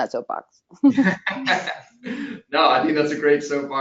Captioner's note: laughing